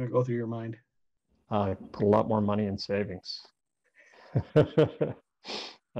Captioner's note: laughs